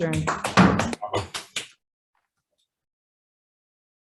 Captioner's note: clapping